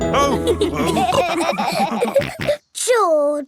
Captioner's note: all laughing